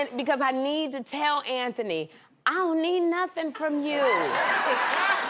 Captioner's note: cheers and applause